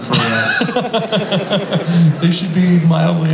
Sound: Chris laughs

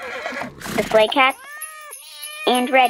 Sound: soundbite of horse neigh; soundbite of cats meowing, sleigh bells

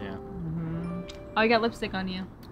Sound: lips smooch

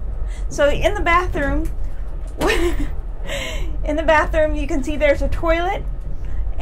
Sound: laughs

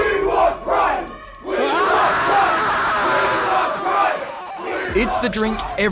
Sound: screams

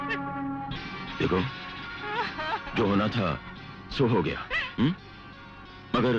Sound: crying

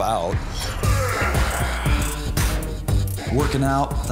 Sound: grunting

